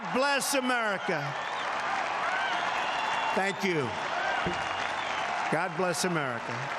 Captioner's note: cheering